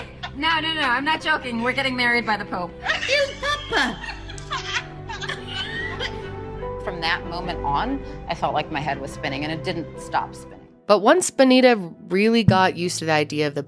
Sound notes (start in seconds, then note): 2.8 woman laughing